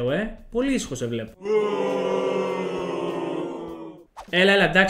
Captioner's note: booing audience sound